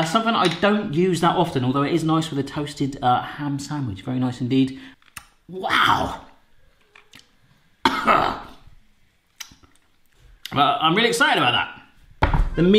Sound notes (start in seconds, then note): 7.8 coughs